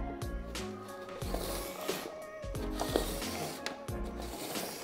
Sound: cardboard scraping

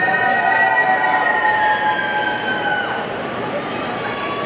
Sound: audience cheering

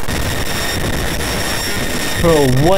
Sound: virus screeching

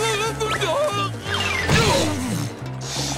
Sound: grunting

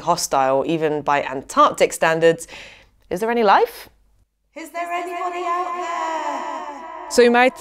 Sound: echoing

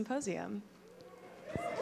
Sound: applause

